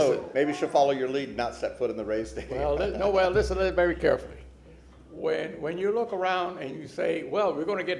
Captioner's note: laughter